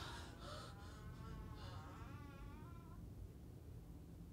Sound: door creaking

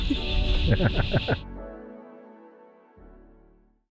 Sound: laughs

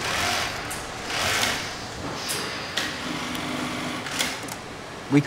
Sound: machines buzzing

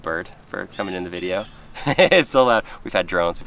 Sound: laughs

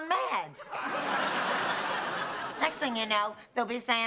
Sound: laughter

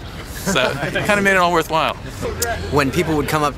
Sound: laughter

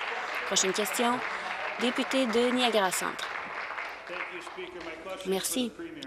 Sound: applause

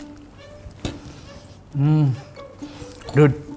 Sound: happy groan

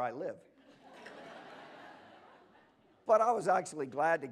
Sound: laughter

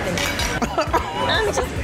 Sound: laughs

